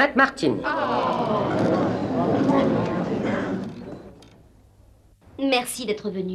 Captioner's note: groaning, murmuring